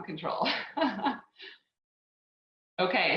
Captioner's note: laughs